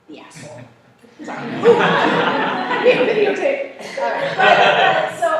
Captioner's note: laughter